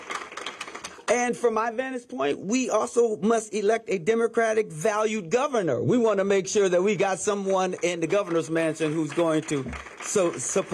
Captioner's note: applause